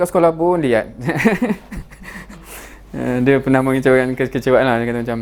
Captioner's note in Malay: ketawa